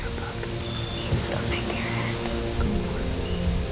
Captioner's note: whispering